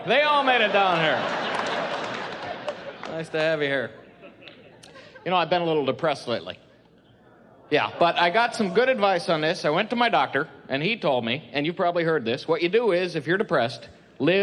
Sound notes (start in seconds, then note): 0.6 laughing; 7.1 crowd